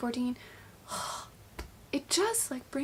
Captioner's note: sighs